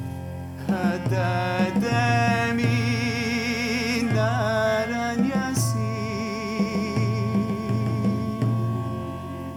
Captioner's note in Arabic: بالعربية